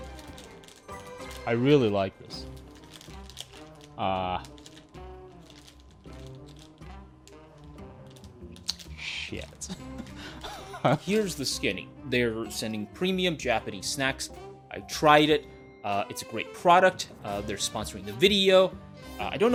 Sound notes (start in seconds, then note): 0.0 dramatic piano music; 9.7 laughs